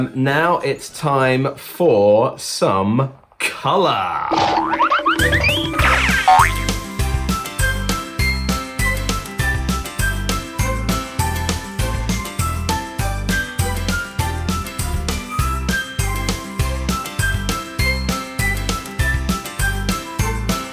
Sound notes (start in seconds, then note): 4.2 bouncing sound effects